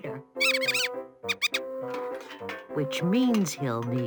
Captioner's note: mouse squeaking